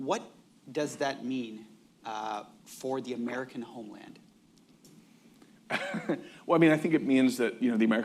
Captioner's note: laughs